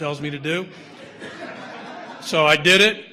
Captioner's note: audience laughter